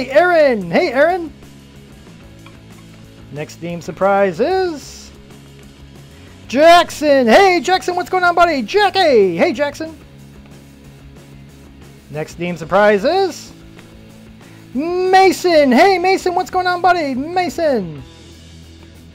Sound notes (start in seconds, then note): none